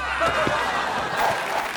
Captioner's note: audience laughing; audience applauding